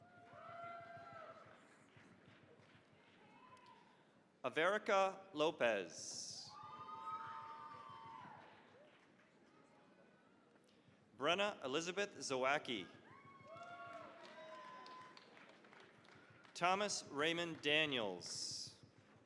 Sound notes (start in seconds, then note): 0.0 cheering, applause; 6.2 cheering, applause; 12.8 cheering, applause